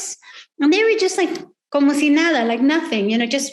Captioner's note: speaking foreign language